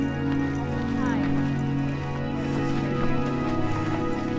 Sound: people chattering

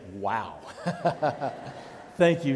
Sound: pastor and congregation laughing

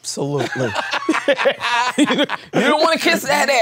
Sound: both laughing

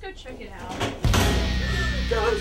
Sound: metal clang

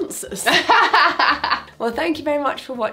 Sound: laughing

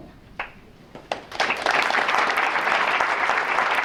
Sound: applause

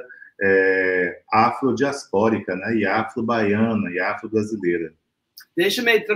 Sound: speaks portuguese

